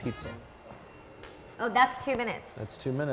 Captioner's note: oven beeping